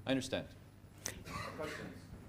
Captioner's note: cough